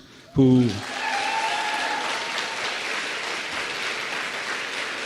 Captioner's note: applause